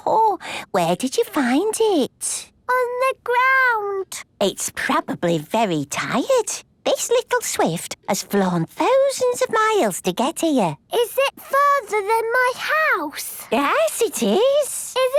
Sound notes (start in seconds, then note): none